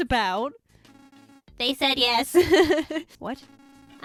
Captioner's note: laughs